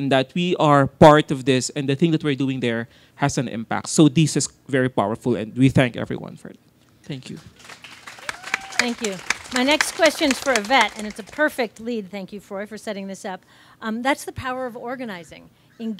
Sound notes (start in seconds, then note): 7.2 audience claps